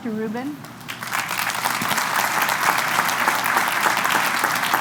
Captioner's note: applause